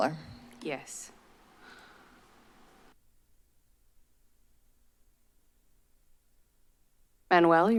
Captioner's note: silence